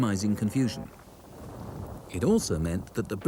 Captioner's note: plane booms